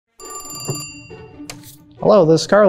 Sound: phone ringing

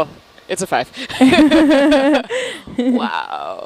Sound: laughter

